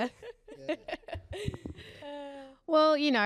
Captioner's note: laugh